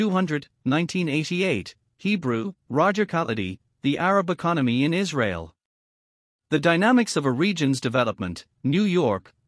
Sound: Hebrew

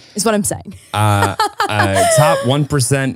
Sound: laughing

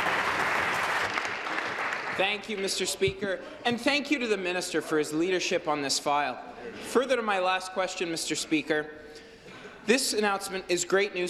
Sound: applause

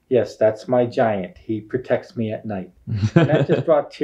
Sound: laughing

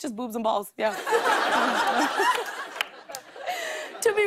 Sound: laughs

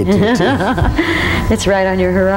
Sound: laughs

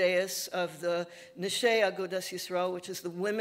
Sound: speaking Yiddish

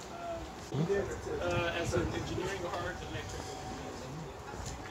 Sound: people chattering

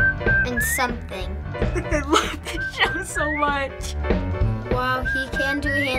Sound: laughing

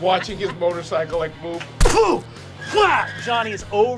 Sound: imitating motorcycle crash

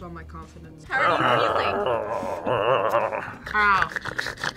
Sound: grumbles; snorts

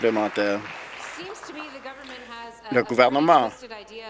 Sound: applause

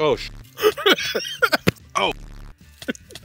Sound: laughs; coughs

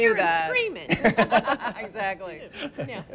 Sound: laughs

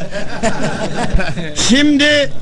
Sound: laughing

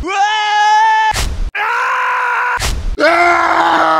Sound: Werehog Scream; heavy Death Screaming

